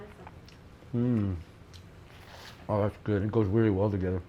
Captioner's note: hums